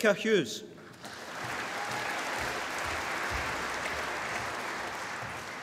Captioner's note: applause